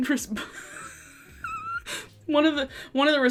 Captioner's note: laughs